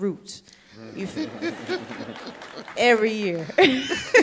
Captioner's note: audience laughing